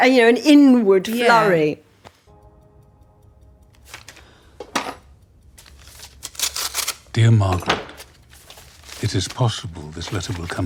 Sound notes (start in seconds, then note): 2.2 tense music; 2.5 paper rustling